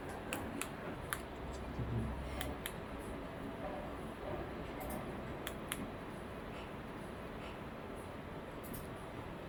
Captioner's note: sound when the TV remote is clicked